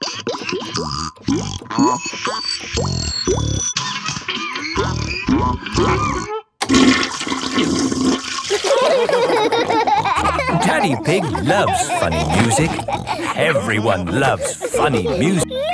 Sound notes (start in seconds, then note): 6.6 toilet flushing; 8.5 laughter